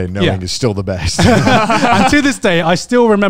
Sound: everyone laughs

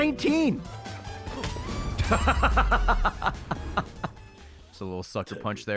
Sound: laughs

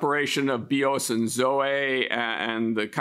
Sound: speaks in Greek

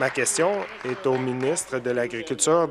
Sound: applause

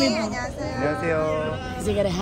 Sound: waves

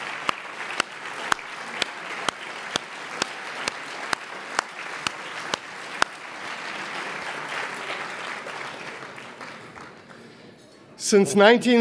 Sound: applause

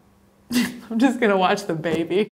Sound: laughs

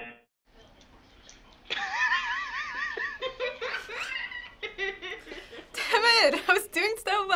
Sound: cameraman laughing

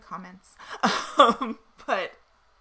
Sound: chuckles loudly

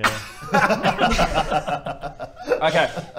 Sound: laughs

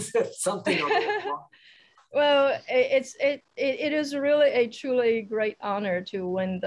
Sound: laughs

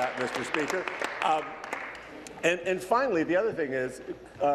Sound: applause

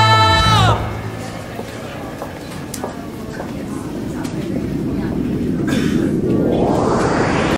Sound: building office & train sounds

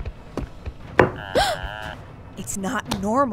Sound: Pear and Egg gasp

